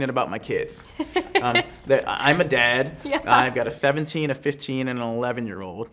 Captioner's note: laughs